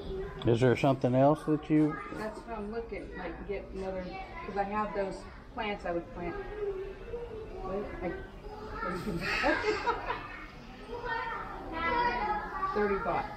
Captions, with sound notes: is there something else that you want (laughs)